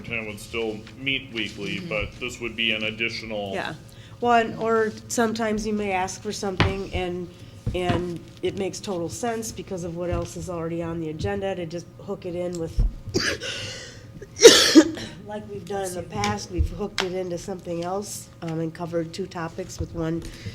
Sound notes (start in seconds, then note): 13.1 coughs